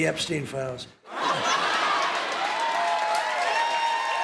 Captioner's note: laughter; cheers and applause